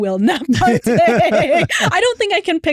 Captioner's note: laughter